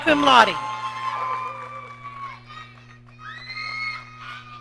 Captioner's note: audience cheering